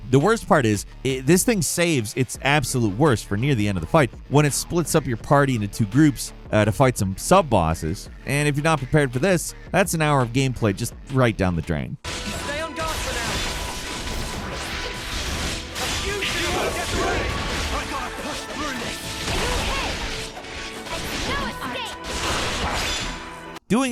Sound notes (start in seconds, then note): 12.2 spells whooshing; 17.7 spell booming